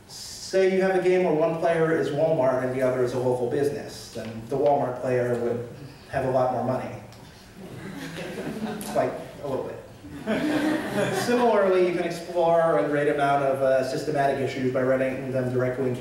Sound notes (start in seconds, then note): 7.6 laughter